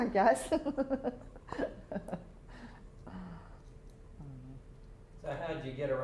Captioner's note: chuckles